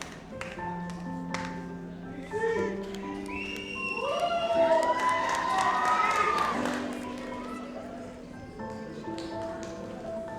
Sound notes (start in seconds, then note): 0.1 gentle music; 3.2 audience applauds; 7.6 gentle music